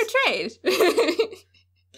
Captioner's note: laughter